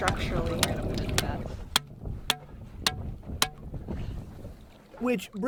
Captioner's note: hammer pounding